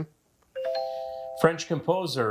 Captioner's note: buzzer chimes